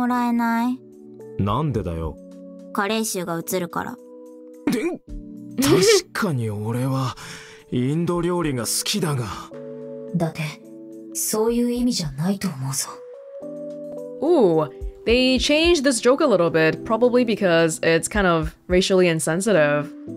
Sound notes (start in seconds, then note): 5.6 chuckles